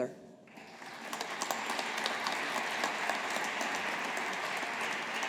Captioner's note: audience applauding